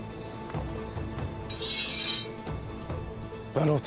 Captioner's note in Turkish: Kılıç çekme sesi